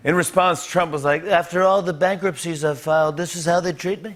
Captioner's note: As Trump